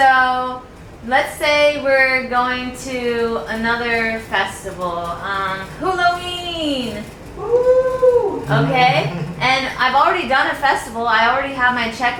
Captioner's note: cheers